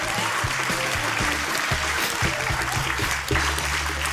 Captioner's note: laughter; applause